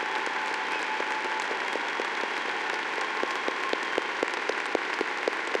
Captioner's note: audience applauding